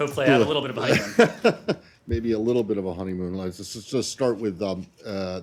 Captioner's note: laughter